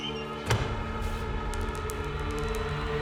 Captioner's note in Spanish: golpe sordo distante; traqueteo de mármol